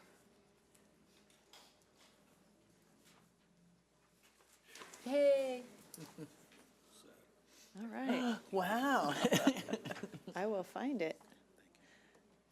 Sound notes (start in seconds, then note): 9.0 laughing